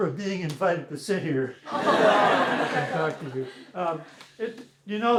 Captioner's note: laughter